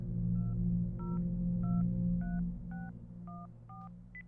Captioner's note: foreboding music; phone dial beeping